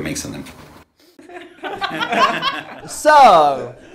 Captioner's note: laughing